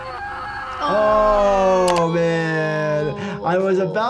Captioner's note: tense music; worker screams; both groan